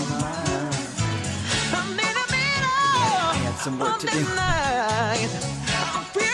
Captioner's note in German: lacht